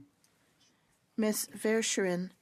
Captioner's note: speaking French